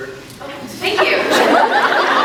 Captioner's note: laughs